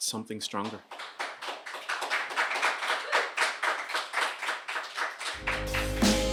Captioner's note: applause